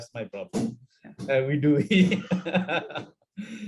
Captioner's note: laughing